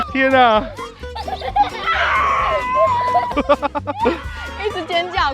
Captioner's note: laughs